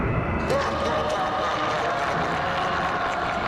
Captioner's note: evil laughter